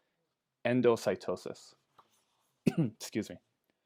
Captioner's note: clears throat